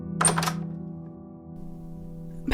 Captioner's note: door opens